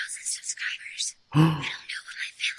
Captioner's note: huh in shock